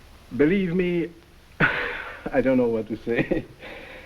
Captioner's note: chuckles